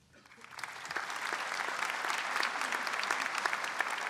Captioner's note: audience applauds